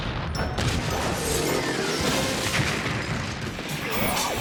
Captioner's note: explosion rumbles; whimsical music; shed crashing; hard rock music